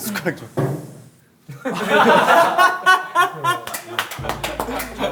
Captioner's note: laughing